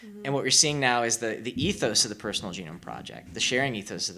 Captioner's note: none